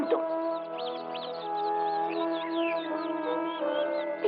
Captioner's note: twittering